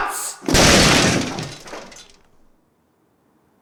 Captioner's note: crashing